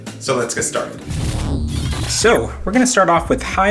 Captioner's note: electronic whirring